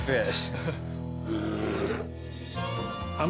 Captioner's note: bear growls